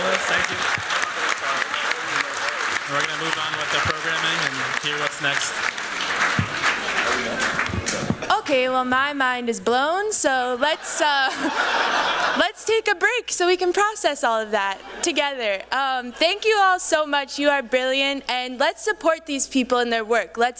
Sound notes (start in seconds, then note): 0.7 applause; 5.7 applause